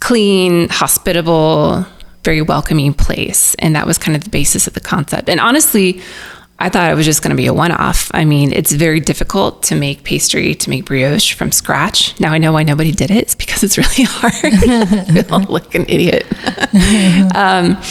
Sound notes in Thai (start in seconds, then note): 16.8 หัวเราะ